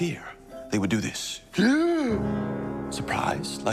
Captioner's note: gasps